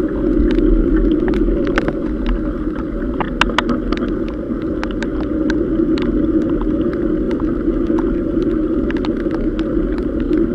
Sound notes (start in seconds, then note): none